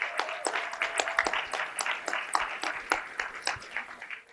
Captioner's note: applause